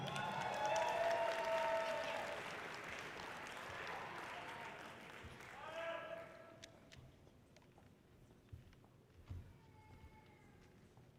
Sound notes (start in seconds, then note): 0.0 audience cheering loudly; 5.9 person shouts encouragingly